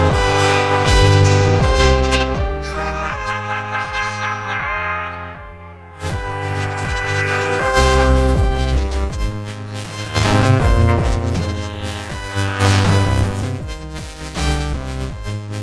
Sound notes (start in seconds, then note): 3.2 cackling; 6.6 groaning